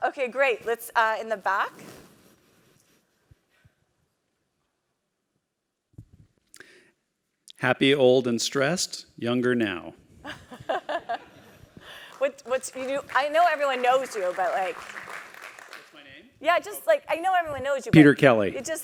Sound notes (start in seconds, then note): 9.9 laugh